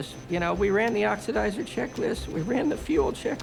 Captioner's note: voice breaking